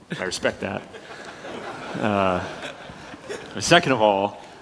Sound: laughter

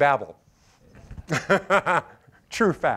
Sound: laughter

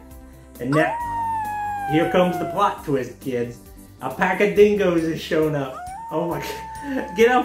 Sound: howling

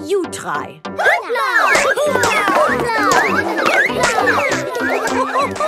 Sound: all laugh

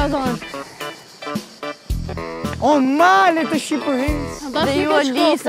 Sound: reciting a poem

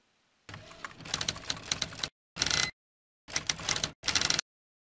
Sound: typewriter clicking

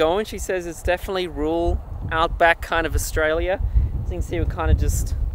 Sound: none

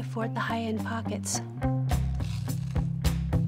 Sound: Crunch

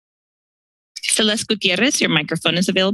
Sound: speaking in foreign language

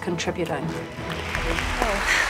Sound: audience clapping

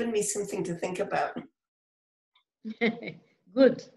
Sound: laughter

